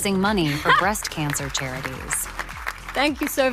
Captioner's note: laughing; audience applauding